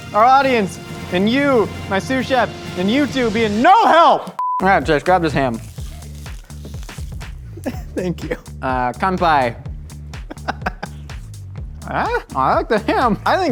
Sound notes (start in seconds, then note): 4.4 high pitched beep; 10.2 laughing